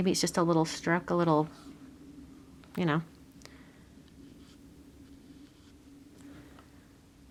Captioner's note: brush scraping paper